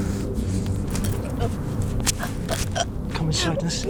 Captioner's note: Sarah choking